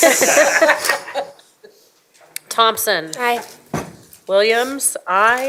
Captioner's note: laughter